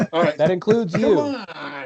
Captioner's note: laughter